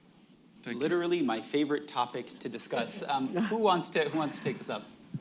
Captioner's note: laughter